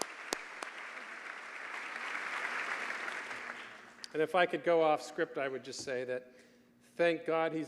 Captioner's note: applause